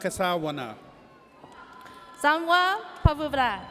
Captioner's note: audience cheers